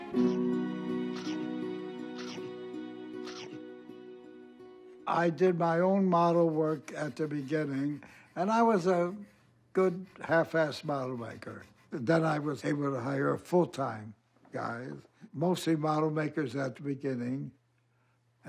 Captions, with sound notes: [shark chomping] I did my own model work at the beginning, and I was a good half-assed model maker. Then I was able to hire full-time guys, mostly model makers at the beginning,